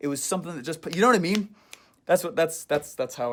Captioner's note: snapping fingers